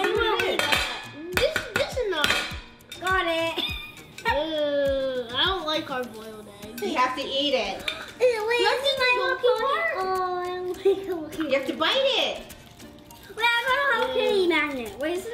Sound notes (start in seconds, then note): 8.2 gasps; 10.2 chattering together